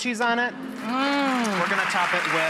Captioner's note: applause